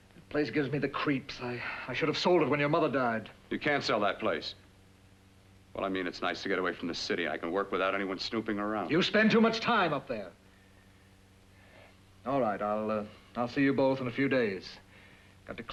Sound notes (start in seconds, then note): none